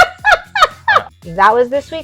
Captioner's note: laughing